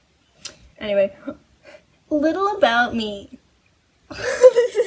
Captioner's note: mocking voice; laughs